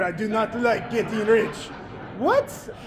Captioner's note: audience laughing